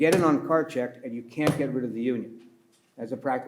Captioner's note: pats table